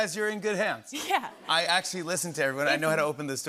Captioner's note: laughter